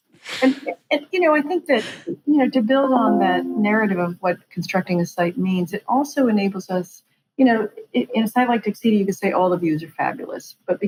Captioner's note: laughs